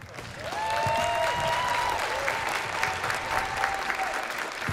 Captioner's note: applause